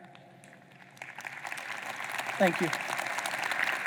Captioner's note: audience applauding